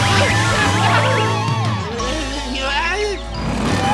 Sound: groaning; cheering

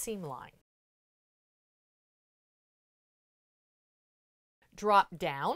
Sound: no Sound Present

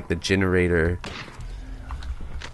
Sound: gunshot

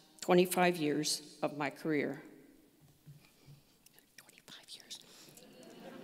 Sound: whispers

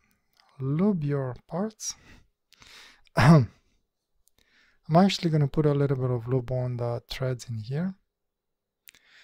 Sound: ahem

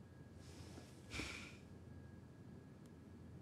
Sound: sighs

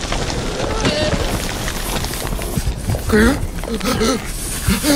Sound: gasps; dirt splatters; filmer gasping

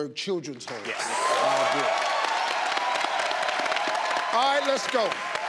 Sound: crowd cheers

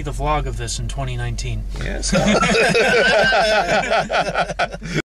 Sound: laughter

